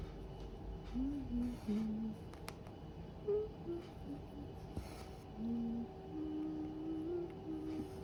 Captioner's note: hums